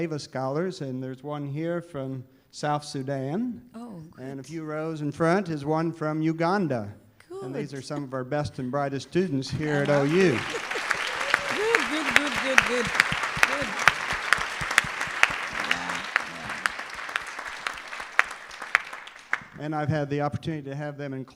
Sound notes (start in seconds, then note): 9.6 applause